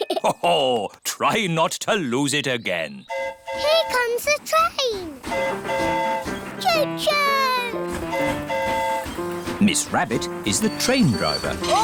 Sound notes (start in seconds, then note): 3.1 train horn hooting; 7.9 train horn hooting